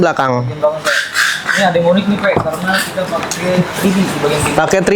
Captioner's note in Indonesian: tertawa